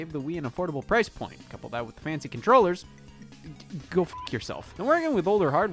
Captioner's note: beep